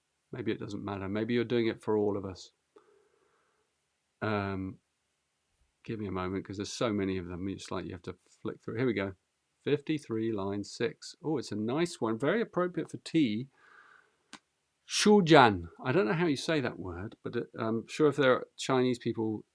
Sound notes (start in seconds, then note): none